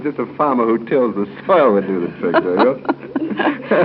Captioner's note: laughs